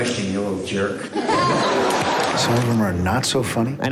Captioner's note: audience laughter